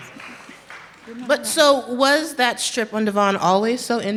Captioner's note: applause